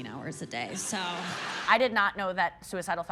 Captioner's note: audience laughing